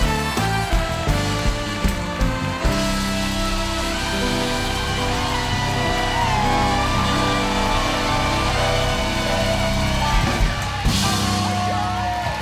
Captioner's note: cheers and applause